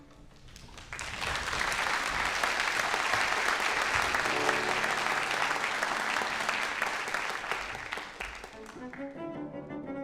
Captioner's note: applause